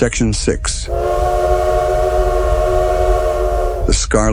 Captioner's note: siren